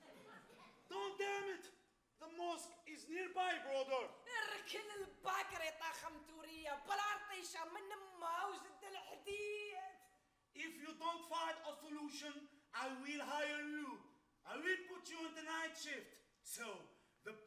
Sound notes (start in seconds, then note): 0.0 crowd laughs; 4.6 woman speaks Arabic